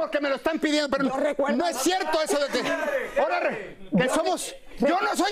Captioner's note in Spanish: risas